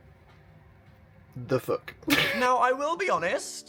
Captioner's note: laughs